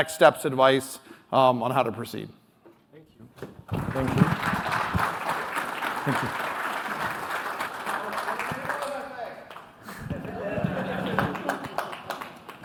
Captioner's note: applause